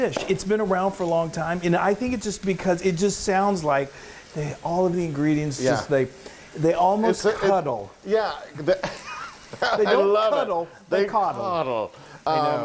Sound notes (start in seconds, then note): 8.5 laughs